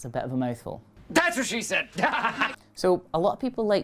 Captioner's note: laughs